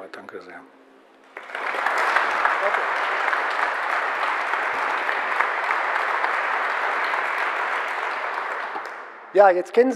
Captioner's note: general applause